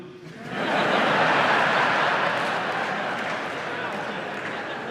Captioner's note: audience laughs